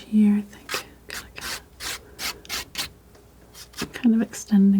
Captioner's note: scratching